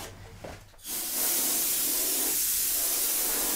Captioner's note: hissing